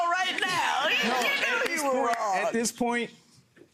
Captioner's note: audience laughs